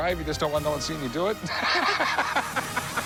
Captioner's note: laughs